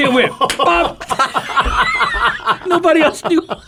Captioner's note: pastors laughing